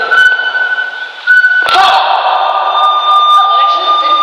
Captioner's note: all shouting